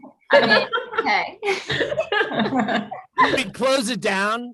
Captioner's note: group laughing